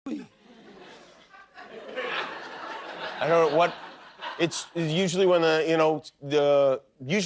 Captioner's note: laughter